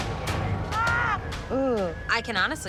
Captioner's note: woman screaming